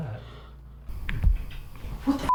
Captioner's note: clicking